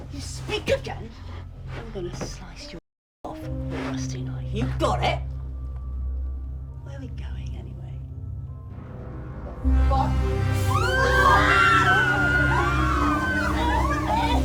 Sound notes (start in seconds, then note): 7.7 dramatic music; 10.6 all screaming